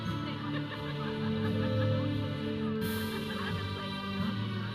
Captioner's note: audience member laughing